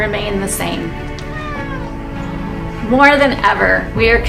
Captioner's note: cat meowing